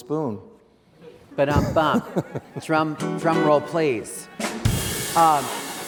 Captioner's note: mimics drums